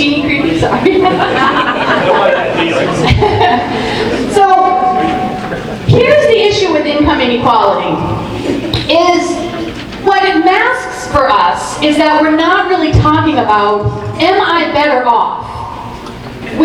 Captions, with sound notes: Is my genie creepy? Sorry. (laughs) (audience murmuring) So, here's the issue with income inequality. Is, what it masks for us is that we're not really talking about, "Am I better off?"